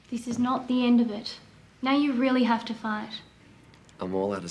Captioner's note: none